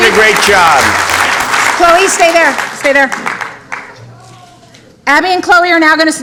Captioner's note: applause